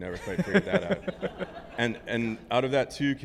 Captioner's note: group laughing